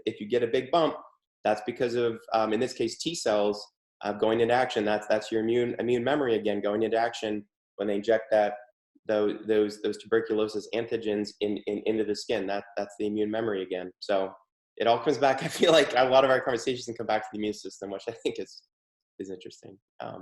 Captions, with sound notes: if you get a big bump, that's because of, in this case, T-cells going in action, that's your immune memory again going into action, when they inject that, those tuberculosis antigens into the skin, that's the immune memory, again. So it all comes back (chuckles) I feel like, one of our conversations and come back to the immune system, which I think is interesting.